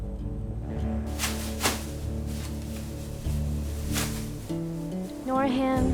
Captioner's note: plastic bag rattling